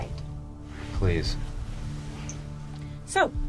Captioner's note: scoffs